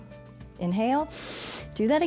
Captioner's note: inhales